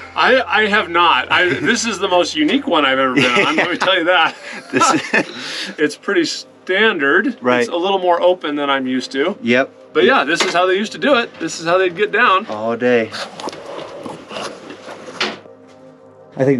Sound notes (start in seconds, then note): 3.1 both chuckling; 13.3 soft music